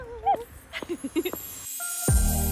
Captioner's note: laugh